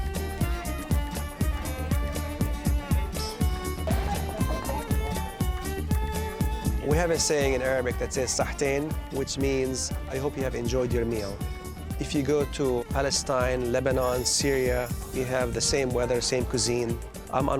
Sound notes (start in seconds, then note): 0.3 middle Eastern music; 8.8 foreign language